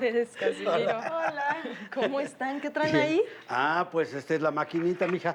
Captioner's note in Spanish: Risas